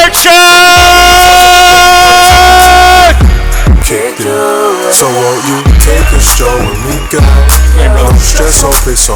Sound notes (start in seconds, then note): 2.8 crowd cheers; 5.0 rap music